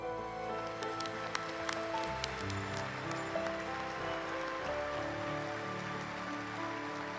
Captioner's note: inspirational orchestral music; audience applauds